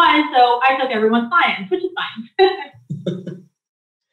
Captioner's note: laughs